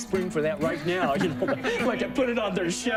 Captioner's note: laughter